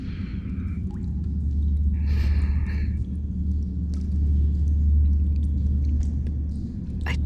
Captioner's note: a low thrum fades in